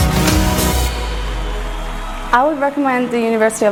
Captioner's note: crowd cheering